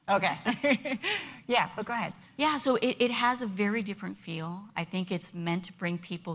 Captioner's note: laughter